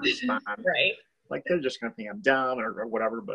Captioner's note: laughs